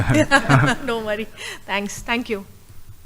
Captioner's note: laughter